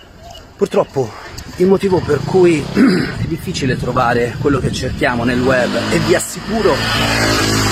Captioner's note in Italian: schiarire la voce